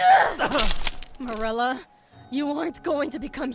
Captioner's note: gruntS; grabbing effort